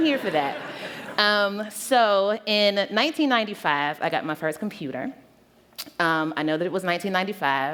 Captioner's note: laughter